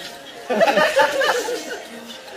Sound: cracking up

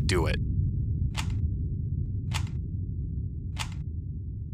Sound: rubik's cube clicking

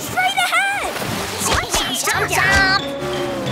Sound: chomping

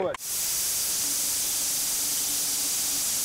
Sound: sawing

